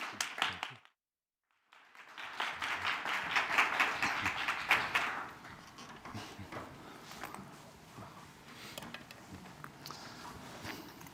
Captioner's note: applause